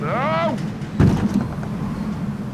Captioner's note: jeremy yells; thud